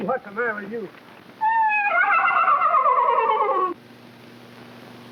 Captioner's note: horse whinnies